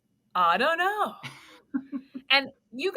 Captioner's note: laughs